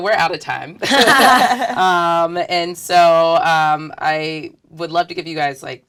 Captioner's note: laugh